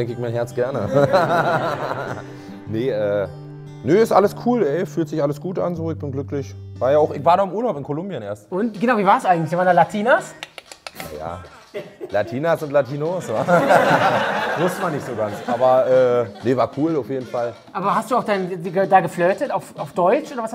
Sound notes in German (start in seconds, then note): 10.8 Heitere Musik; 13.2 Lachen